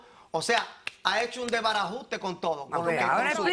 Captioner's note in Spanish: Palmadas